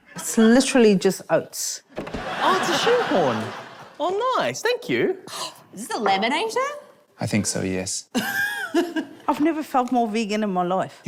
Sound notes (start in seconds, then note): 5.3 gasps; 8.7 laughs